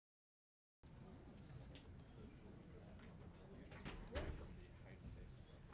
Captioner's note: people chattering indistinctly